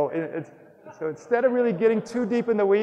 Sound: audience laughs

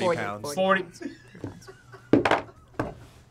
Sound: React laughs

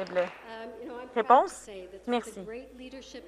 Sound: some Applause

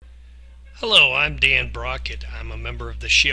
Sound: voiceover

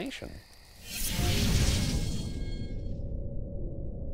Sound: whooshing

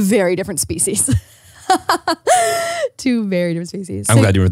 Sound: laughs

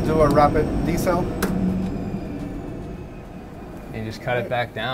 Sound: engine powering down

